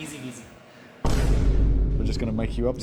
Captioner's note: dramatic thudding